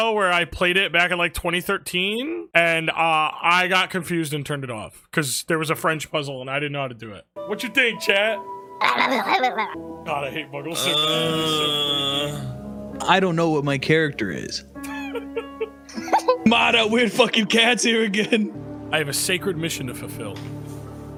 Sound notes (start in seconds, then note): 10.7 moans; 10.7 growls; 14.8 laugh